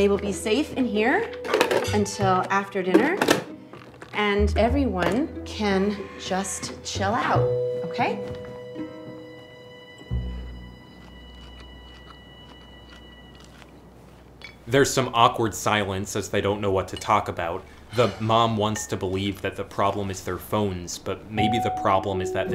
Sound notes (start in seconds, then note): 10.7 chewing